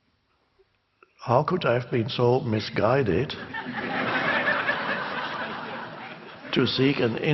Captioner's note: crowd laughs